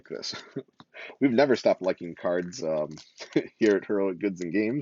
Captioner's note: laughs